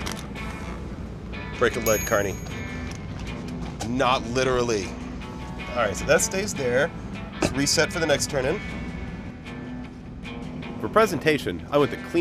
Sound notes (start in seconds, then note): 1.8 ding